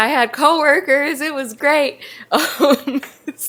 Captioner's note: laughs